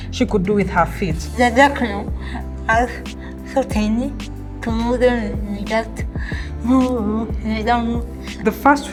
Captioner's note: speaking English